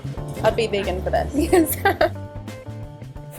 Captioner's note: laughter